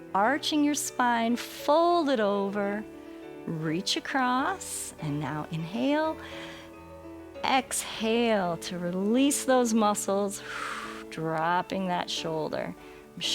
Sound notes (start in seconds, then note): 6.2 inhales; 10.3 exhales